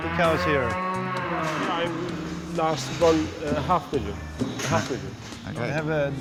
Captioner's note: cows moo